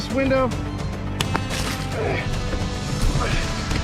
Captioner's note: glass shatters; dramatic music playing